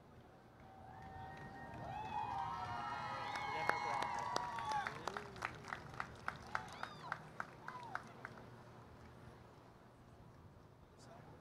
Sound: applause, Cheering

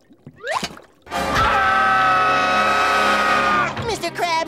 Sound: screaming

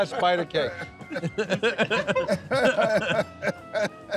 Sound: laughing

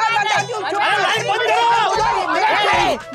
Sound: shouting; shouting

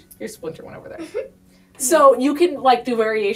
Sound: laughs

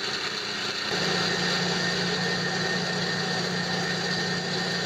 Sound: motor running

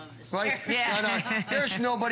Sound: laughter

